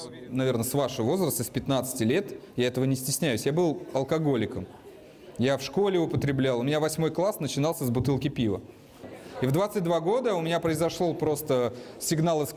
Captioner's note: speaking russian